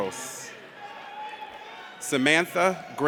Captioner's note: audience cheers